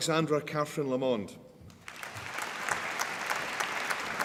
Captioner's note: applause